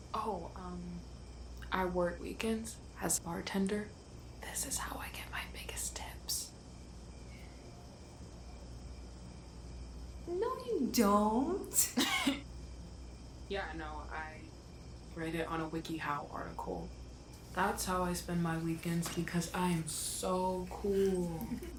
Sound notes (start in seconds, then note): 11.9 laughs